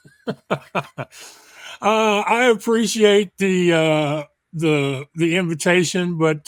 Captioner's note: chuckles